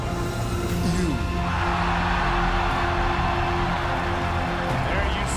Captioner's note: cheers and applause